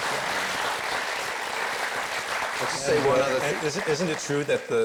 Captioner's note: audience applauds